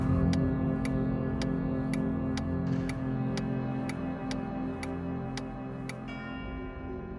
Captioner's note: 4-way flashers clicking